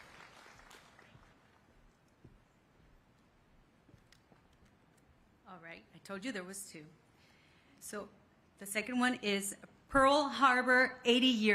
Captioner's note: applause